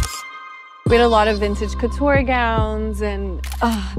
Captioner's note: sighs